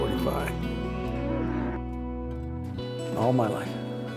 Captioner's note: cow moos